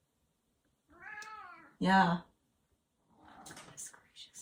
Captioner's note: Chaz meowing